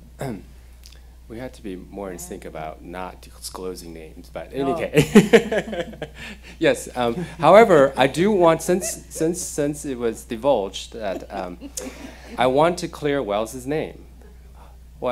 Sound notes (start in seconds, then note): 4.6 laughing